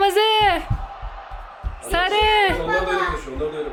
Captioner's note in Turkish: coşkulu tezahürat